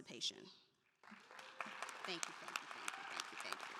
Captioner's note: audience applauding